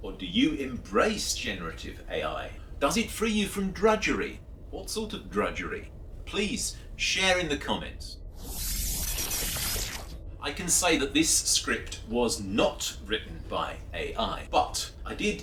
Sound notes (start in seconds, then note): 8.4 electronic sounds